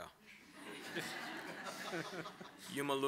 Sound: laughter

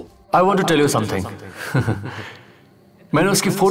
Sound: laughing

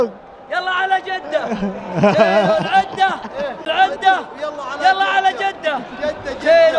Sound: laugh

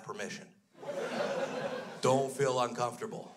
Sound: crowd laughs

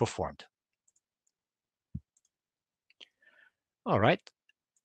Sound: mouse clicking

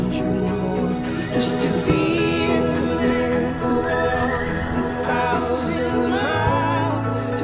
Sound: horses whinny

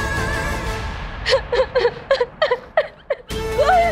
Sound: sobbing

